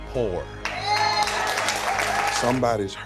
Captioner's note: crowd cheering